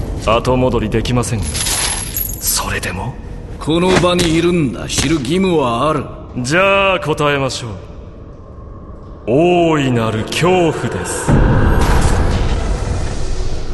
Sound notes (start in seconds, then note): 1.4 chains rattle